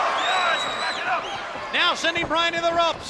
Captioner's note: footsteps plodding